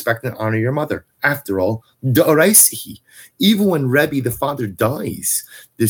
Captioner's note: Hebrew